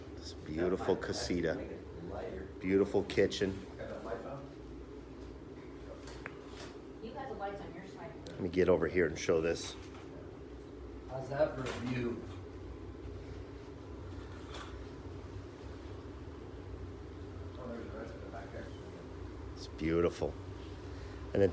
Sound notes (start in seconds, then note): 4.0 background chatter